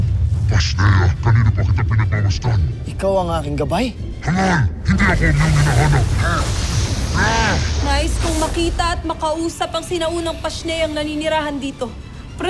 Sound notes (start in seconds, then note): 5.0 powerful splash-crackle; 5.9 growls